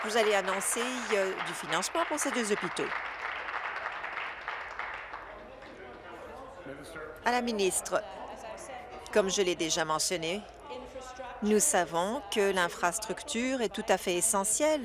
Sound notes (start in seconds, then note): 3.7 applause